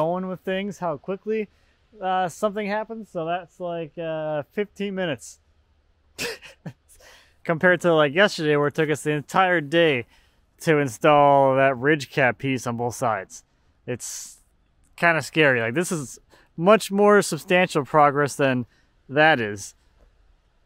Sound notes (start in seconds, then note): 6.2 laughs